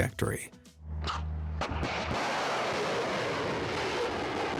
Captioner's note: missile roaring